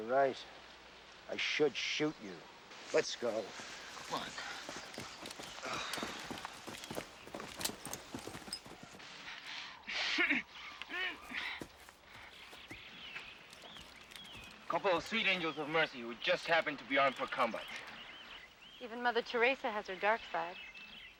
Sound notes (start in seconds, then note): 9.8 girls groaning